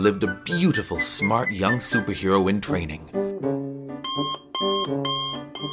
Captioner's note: alarm beeping